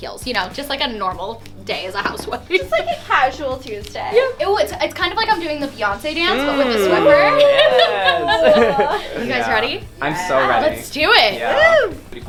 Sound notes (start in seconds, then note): 6.2 laughing